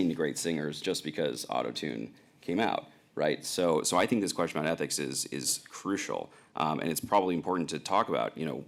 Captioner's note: none